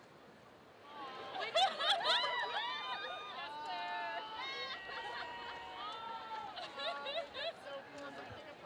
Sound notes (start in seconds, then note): 1.6 students laughing